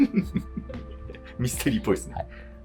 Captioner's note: laughing